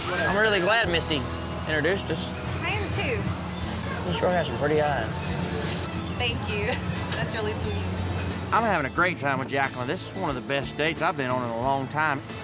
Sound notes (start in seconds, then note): none